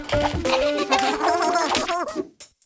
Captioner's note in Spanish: Risas